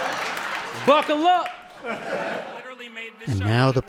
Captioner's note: laughter